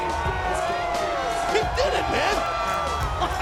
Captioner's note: laugh